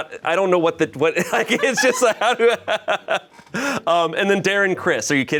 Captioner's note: laughs